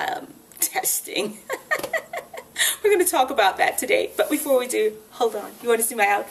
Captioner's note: laughs